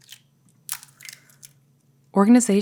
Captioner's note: eggs cracking